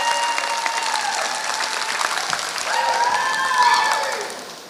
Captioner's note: applause